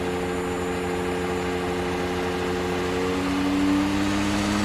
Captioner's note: motor whirring; motor whirring faster